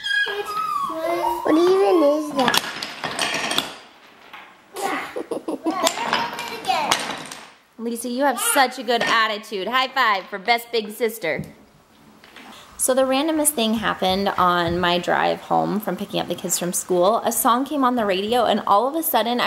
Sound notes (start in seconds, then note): 2.4 blocks crash